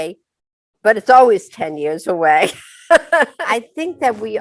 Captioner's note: laughs